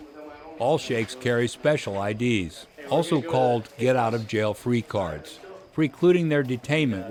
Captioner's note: voiceover